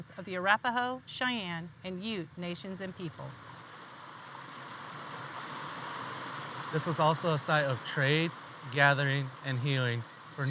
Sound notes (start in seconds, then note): 3.2 water rushing